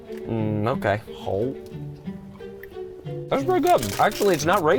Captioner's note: chewing